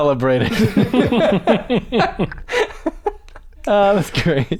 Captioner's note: laughter